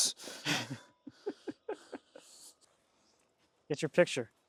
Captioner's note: laughing